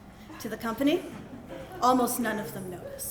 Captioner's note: laughter